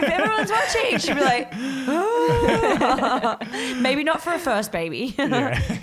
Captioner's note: mimics crying